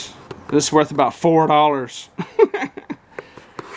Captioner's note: laugh